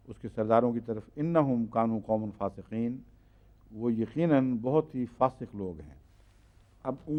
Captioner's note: Arabic